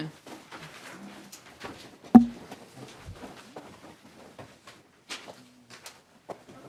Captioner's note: gavel